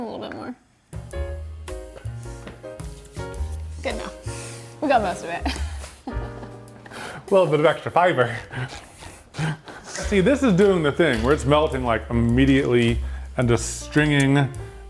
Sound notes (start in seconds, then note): 0.8 slow jazz music; 5.3 chuckles; 9.6 footsteps squeaking